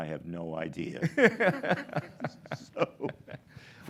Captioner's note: laughs